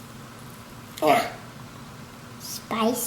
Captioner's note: grunt